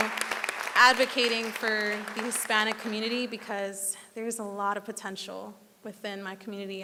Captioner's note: applause